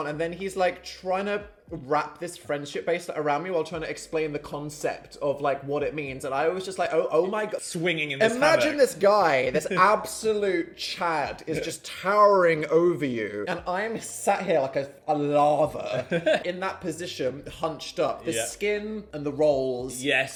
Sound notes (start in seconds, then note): 10.6 chuckling; 15.8 laughing